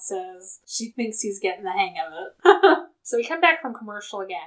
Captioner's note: laughs